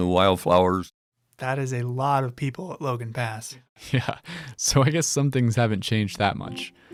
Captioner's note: chuckles